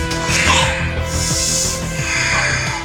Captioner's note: panting